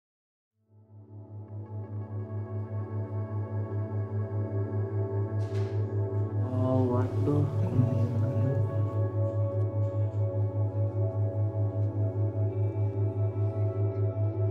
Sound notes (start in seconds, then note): 1.3 calm ambient music; 6.7 speaking in foreign language